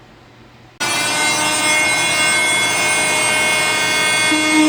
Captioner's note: saw buzzing